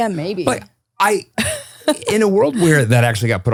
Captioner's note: laughs